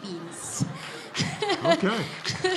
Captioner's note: laughter